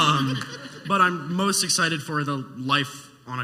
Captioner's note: laughing